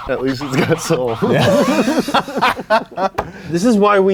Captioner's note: laugh